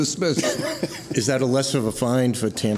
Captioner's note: laughter